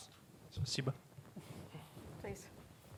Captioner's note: russian